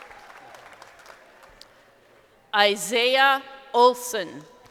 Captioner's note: crowd applauding